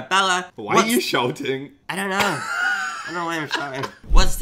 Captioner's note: laughs